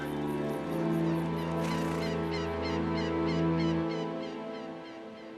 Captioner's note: bird calling